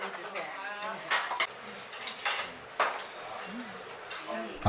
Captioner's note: sound of eating anglerfish stew